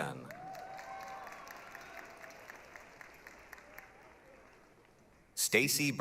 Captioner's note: applause, cheering